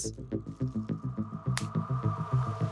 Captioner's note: pop